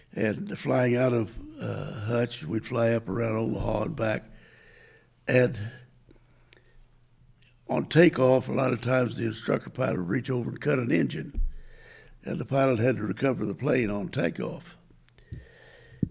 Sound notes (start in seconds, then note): none